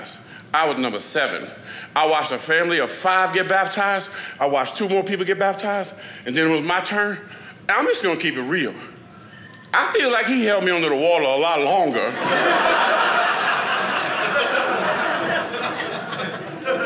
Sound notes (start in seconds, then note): 12.0 audience laughing